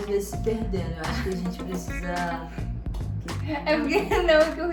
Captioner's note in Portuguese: Risos